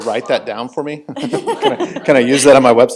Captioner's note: chuckling